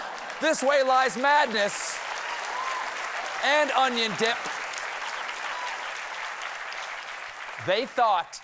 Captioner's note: applause